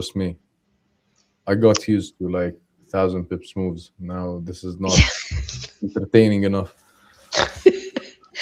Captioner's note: laughter